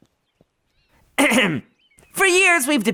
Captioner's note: clearing throat